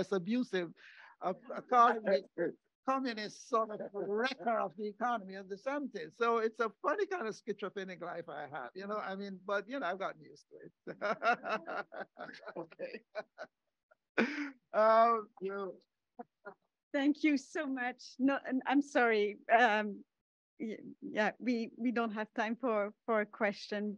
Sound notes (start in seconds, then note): 10.5 laughs